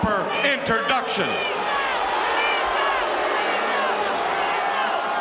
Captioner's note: audience shouting